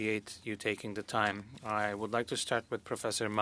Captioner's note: speaking French